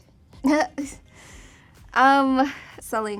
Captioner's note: chuckles